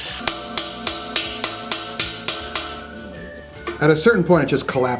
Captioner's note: metallic hammering